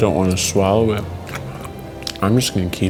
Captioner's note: chewing sounds